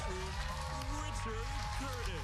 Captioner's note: cheers and applause